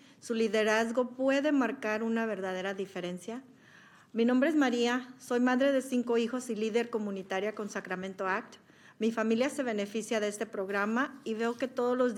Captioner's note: speaking spanish